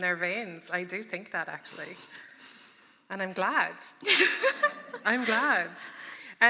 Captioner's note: laughter